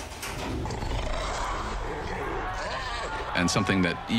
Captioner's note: growling